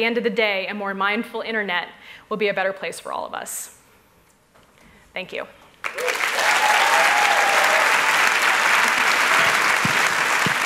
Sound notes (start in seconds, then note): 5.8 applause